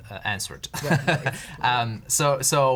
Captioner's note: chuckles